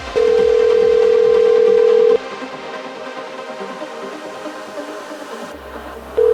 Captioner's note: energetic music; dial tone ringing